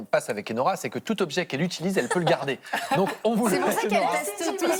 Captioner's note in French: rires